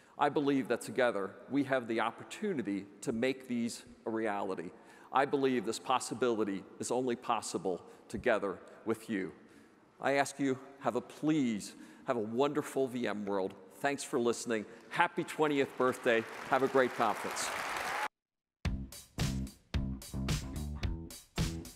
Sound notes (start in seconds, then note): 17.7 audience applauds; 19.8 upbeat music